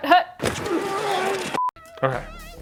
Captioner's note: screen beeps